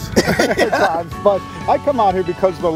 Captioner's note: laughing